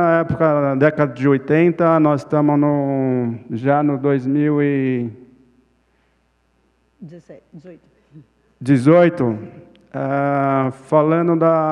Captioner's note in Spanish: Ponente habla en portugués